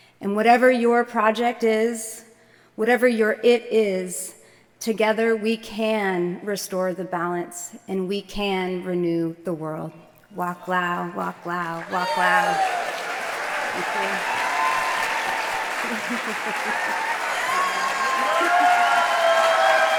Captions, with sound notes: And whatever your project is, whatever your it is, together we can restore the balance, and we can renew the world. [SPEAKS NATIVE LANGUAGE] [APPLAUSE]